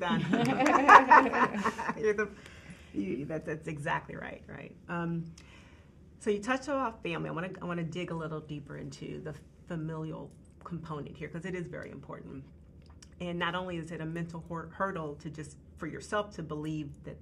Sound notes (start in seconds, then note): 0.0 group laughing